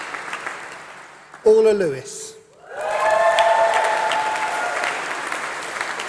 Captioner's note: applause